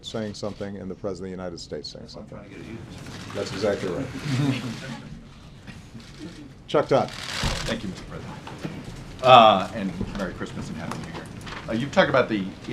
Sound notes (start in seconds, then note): 7.2 laughter